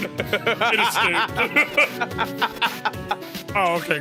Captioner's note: laughs